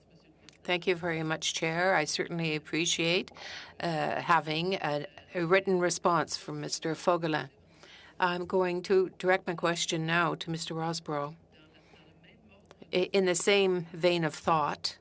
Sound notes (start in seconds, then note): 4.5 speaking French